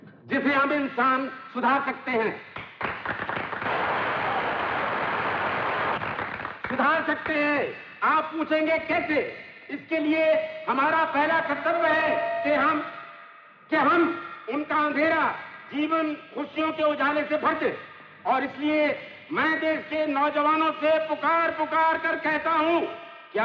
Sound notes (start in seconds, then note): 2.5 crowd Applauding